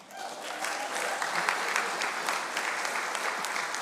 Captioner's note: audience clapping